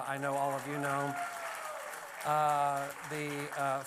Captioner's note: applause